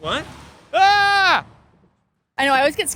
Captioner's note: shouting